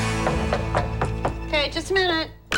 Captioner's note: knocking